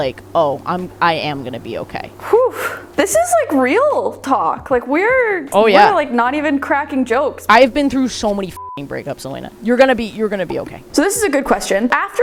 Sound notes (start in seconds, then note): 2.2 sighing; 8.5 beep